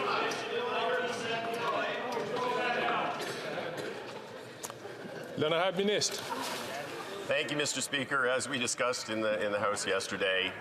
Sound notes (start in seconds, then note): 0.0 chatter